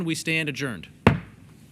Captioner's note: gavel pounding